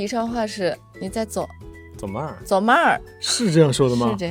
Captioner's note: in Yichang dialect